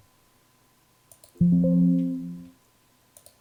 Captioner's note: Windows Sound